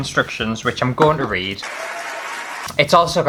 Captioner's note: applause